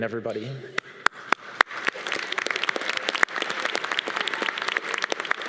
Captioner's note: audience applause